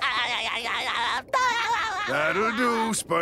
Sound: imitating Mr. Krabs' laugh; laughing

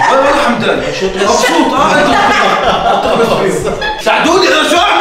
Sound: laughing

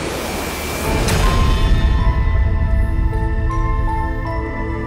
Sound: whooshing sound

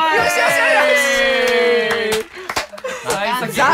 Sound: clap clap

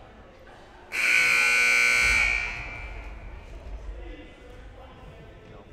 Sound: loud buzzer blaring

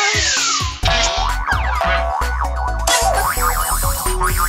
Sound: springs bouncing

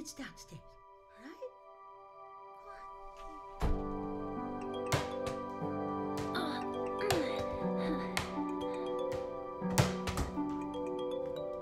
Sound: ball bouncing. Rippling music

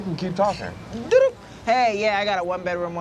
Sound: imitates button beeps

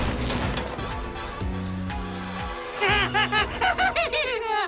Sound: timmy laughs maniacally

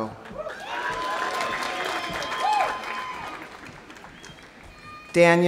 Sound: audience applauding; audience cheering

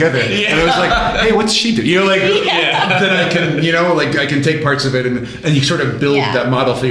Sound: laughter

